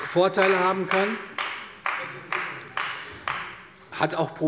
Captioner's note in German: Beifall des Abg